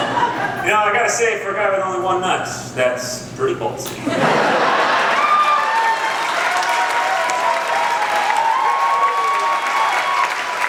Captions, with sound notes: Now, I gotta say, for a guy with only one nut... ...that's pretty ballsy. (Applause)